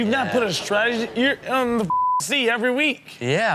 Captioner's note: beep